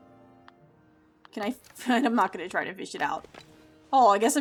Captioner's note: laugh